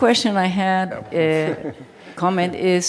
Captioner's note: laughter